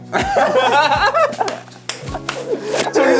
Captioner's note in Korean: 꺄르륵